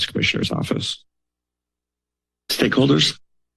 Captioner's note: silence